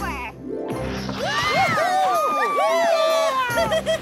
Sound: screams

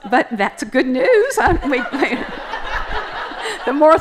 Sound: laughter

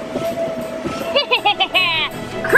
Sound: laughing

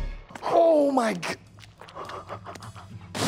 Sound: laughing

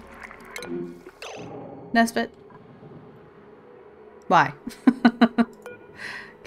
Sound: laughs

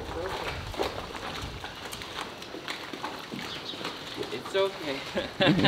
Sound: shuffling clopping hooves; laughing

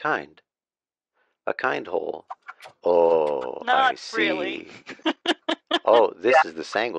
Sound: laughs

